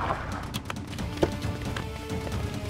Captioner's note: Car door opens